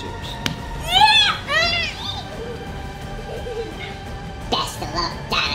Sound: children cheer

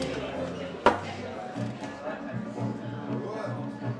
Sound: people chattering

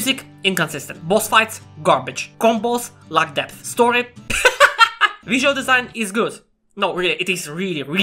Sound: laughter

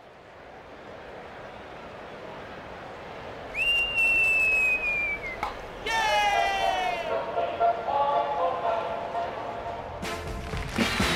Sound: cheering; festive music

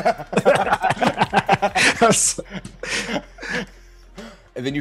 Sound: laugh

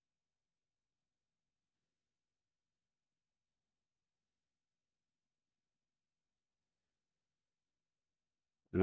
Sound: silence

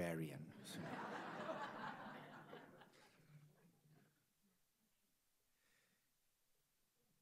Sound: audience laughs

